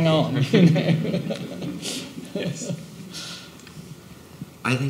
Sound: people laughing

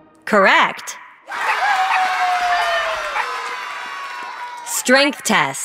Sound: applause

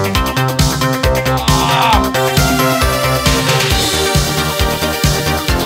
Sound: groans

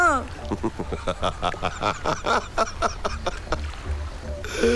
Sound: laughs

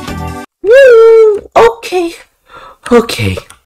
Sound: inhales

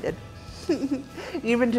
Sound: giggles

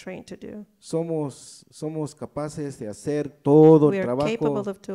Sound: speaks in foreign language

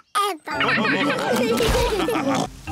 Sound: all laugh

